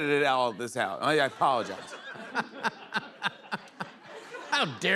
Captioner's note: laughter